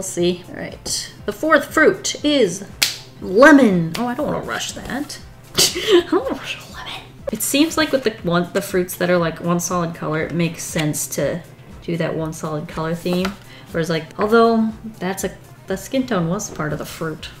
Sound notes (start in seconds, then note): 2.8 claps; 5.5 laughs